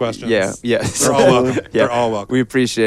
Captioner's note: chuckles